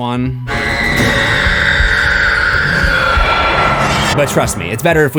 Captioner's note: screams